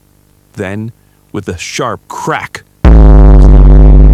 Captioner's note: boom